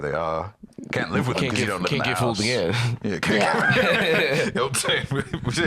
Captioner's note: laughs